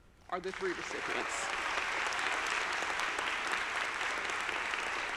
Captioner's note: audience applauding